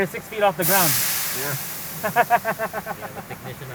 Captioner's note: laughs